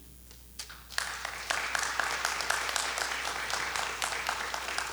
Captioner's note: audience applauding